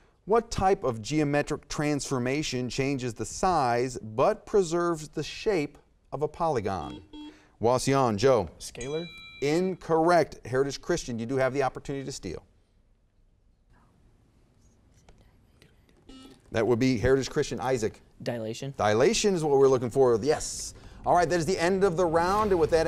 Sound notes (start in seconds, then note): 6.8 buzzer beeps; 8.8 timer dings; 16.1 buzzer beeps; 20.6 intense music